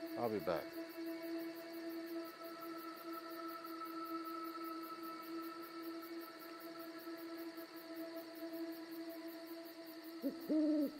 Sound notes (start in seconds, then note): 2.0 insects chirping; 3.5 gentle music; 5.5 insects chirping; 8.2 gentle music